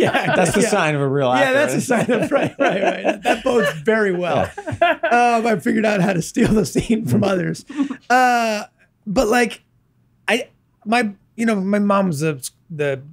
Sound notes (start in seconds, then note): 0.0 Glenn and Megan laughing; 4.5 laughs